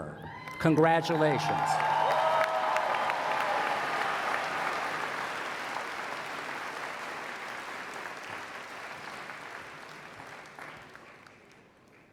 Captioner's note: applause